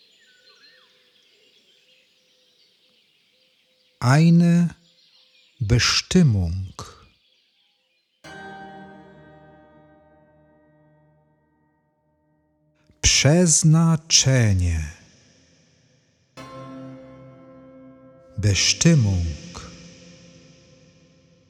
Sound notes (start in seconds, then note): 5.7 german; 19.8 german